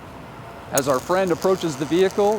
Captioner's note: electricity crackles